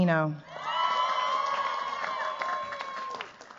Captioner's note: cheers, applause